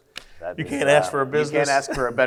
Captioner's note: laughs